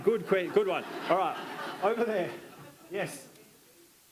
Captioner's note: attendees laughing